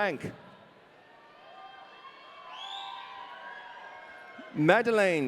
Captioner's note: audience cheering